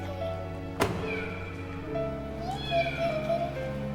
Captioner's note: car door closing